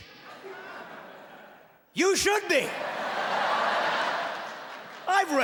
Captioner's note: laughing